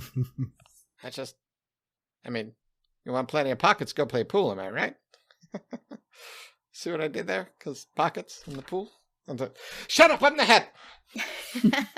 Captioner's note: laughing